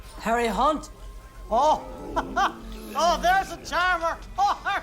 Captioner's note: laughs